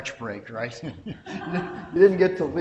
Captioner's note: audience members chuckle